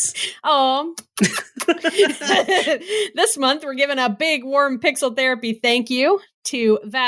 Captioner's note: kiss noises